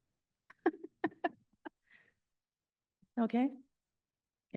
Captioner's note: laughs